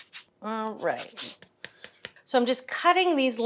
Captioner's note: lemon tapping